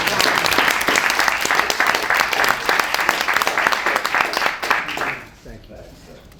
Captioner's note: applause